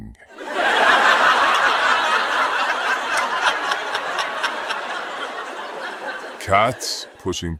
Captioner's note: audience laughing